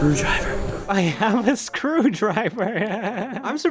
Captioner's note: laughter